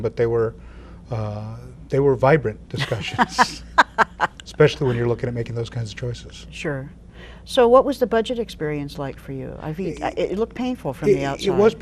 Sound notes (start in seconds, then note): 2.8 laughing